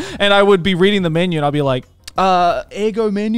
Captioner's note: speaks in foreign language